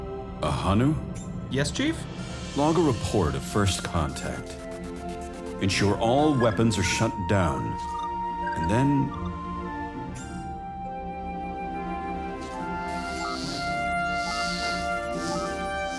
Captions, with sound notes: Ahanu? Yes Chief? Log a report of first Contact. Ensure all weapons are shut down... and then... [ static ]